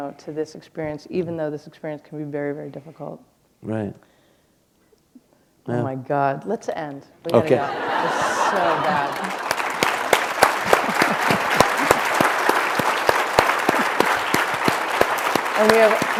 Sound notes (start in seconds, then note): 7.4 laughter; 12.2 applause